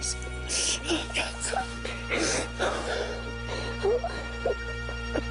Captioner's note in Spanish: Ambos lloran